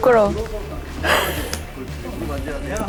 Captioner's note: smack